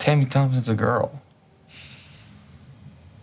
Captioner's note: exhales